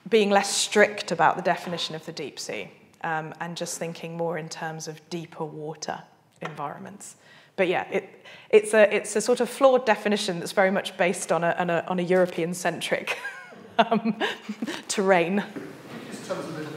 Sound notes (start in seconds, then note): 13.1 laughs